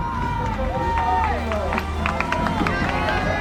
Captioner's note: crowd cheers